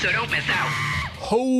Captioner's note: obnoxious monkey noise